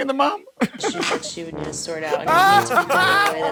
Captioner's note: Murr and Q laughing